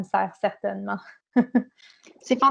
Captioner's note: laughter